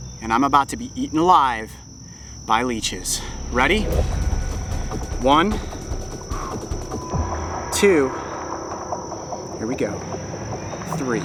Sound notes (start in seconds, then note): 5.4 exhales